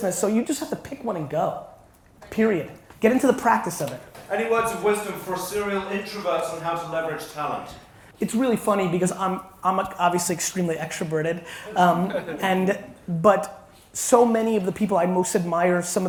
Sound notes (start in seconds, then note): 11.5 audience laughs